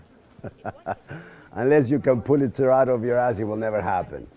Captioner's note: laughing